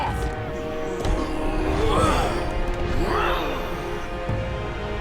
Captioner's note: grunting